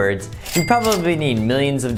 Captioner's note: cash register bell ringing